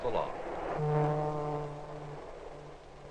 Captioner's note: train horn sounding